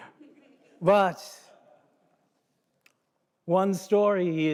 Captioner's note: audience murmuring, chuckling; laughs